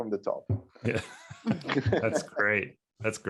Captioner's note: speakers laughing